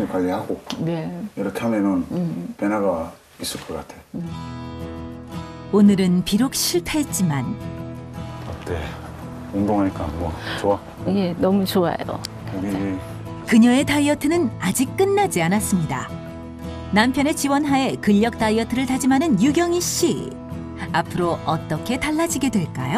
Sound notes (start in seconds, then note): 6.9 voiceover